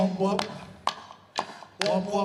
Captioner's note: chanting